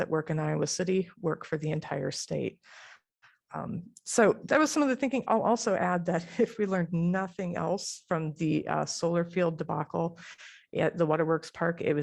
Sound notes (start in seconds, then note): 6.3 laughter